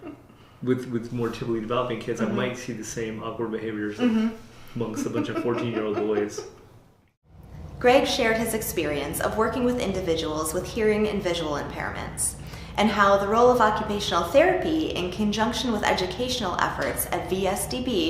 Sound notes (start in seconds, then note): 4.8 laughter